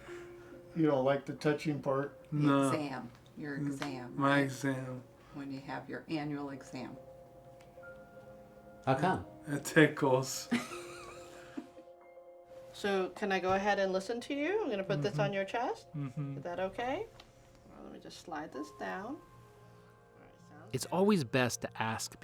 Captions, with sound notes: You don't like the touching part? -No. -The exam, your exam. My exam. When you have your annual exam. -How come? -It tickles. (she laughs) So, can I go ahead and listen to you? I'm gonna put this on your chest... -Mm-hm. -...is that okay? Let me just slide this down. It's always best to ask before touching